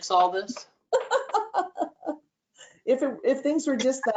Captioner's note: laughter